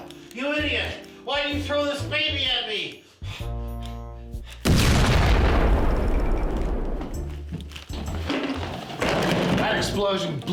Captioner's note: explosion